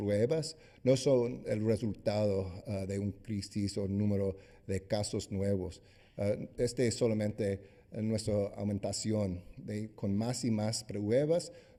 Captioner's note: speaking spanish